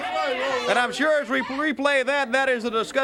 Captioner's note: crowd chatter